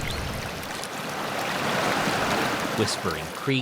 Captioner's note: birds chirping; water lapping